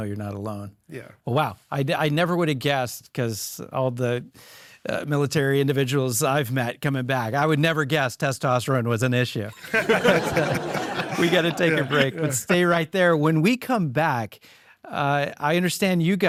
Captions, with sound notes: - Yeah. Just to know you're not alone. - Yeah. - Wow. I never would've guessed 'cause all the military individuals I've met coming back I would never guess testosterone was an issue. (all laughing) We gotta take a break, but stay right there. When we come back,